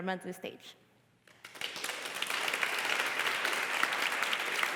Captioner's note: applause